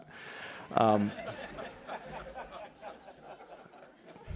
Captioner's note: laughter